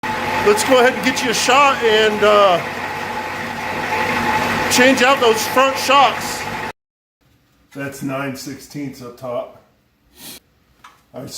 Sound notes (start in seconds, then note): 6.7 engine idling